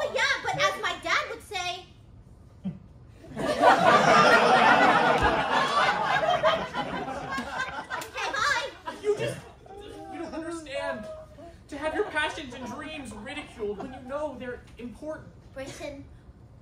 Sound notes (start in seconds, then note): 3.2 laughter